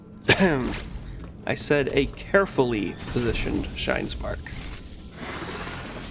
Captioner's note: ahem